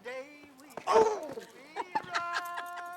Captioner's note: yelling; laughing